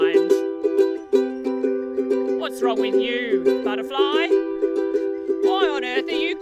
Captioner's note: speaks